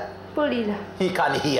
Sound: speaking in local language

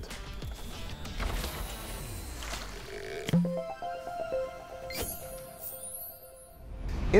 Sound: playful chime

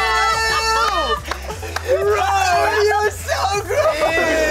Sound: screaming and laughing; clapping

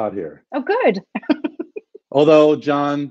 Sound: laughs

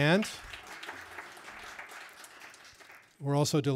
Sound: audience applauding

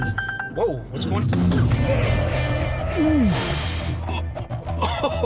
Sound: alert tone; tires screeching

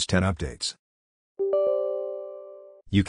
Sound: Windows 10 UAC sound

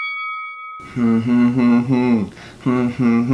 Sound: humming

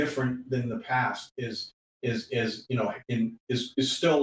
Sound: voice scrambles

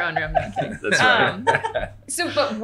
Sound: laughing

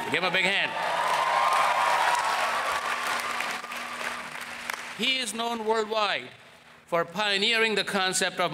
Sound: applause

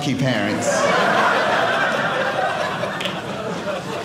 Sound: audience laughing

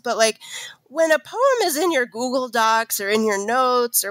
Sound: none

